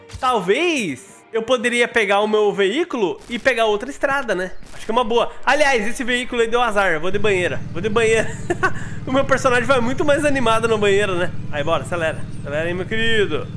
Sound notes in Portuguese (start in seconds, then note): 8.1 Risos